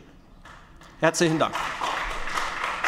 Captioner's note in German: Beifall bei den GRÜNEN